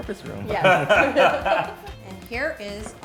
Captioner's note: all laughing